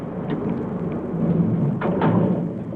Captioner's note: automatic door closing